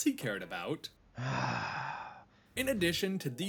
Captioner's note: sigh